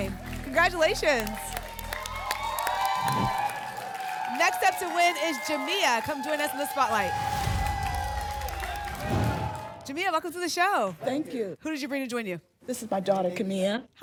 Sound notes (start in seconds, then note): 1.5 applause and cheering; 2.9 whoosh; 7.7 applause and cheering; 9.0 whoosh